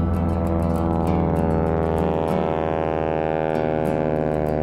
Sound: aircraft engine roaring

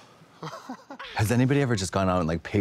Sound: laugh

